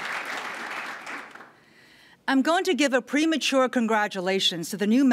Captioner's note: applause